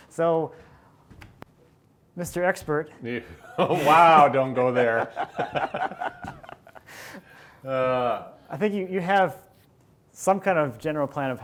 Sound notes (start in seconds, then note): 5.2 both laughing